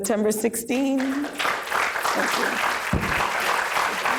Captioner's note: applause